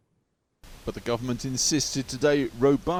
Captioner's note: voice-over